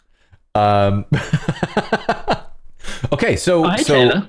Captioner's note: laughter